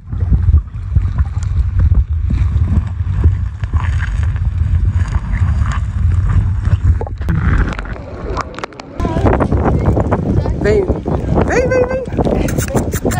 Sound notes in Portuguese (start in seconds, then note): 9.0 vento